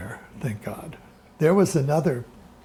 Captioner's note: background discussion